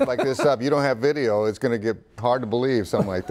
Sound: laughter

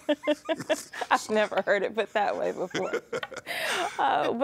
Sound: laughs

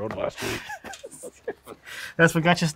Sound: laughs

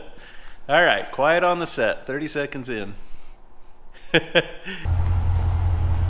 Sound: laughing

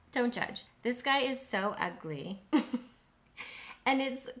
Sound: chuckles

